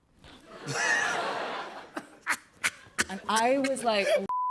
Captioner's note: laughter